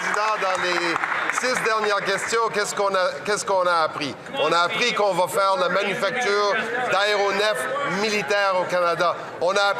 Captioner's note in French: voix de l'interprète